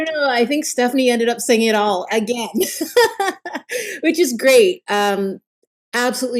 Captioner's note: laughs